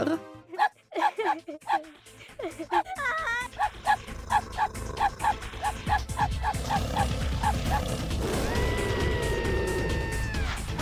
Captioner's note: sound of the game: dog barking and girl crying